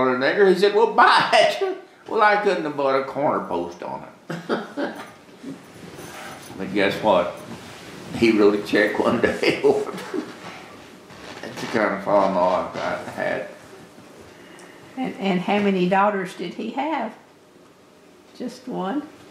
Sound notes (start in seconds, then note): 4.3 laughter; 9.3 laughs